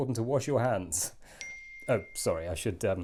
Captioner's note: ping